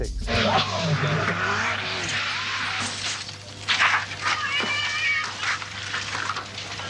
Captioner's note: engine roaring, brakes shrieking, crashing, crunching